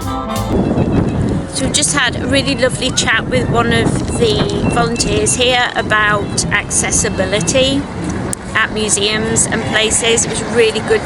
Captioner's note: sound of wind blowing